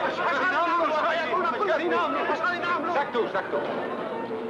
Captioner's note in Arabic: صراخ الحشد; الناس يصرخون بلغة أجنبية; يتحدث لغة أجنبية